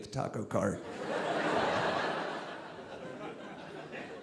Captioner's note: audience laughing